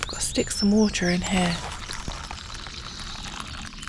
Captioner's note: slosh